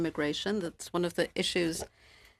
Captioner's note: speaking French